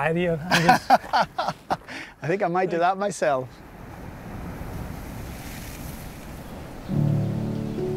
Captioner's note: laughing; serene music